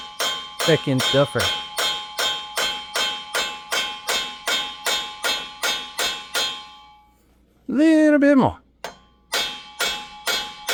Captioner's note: clanging